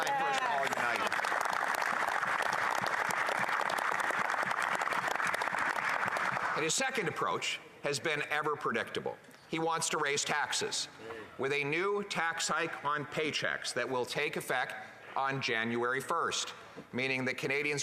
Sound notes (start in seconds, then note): 4.2 applause